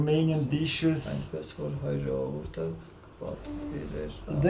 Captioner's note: reading Armenian